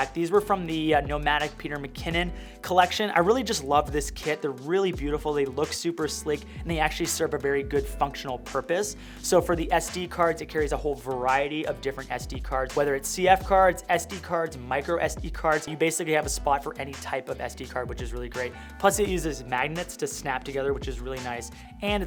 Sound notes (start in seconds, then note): none